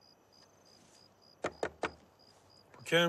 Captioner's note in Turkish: kapi sesi̇